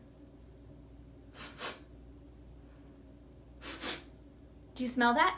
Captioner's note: sniffing